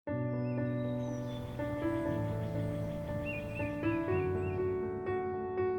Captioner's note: mellow piano music; birds twittering